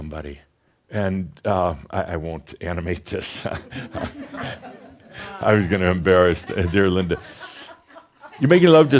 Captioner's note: some giggles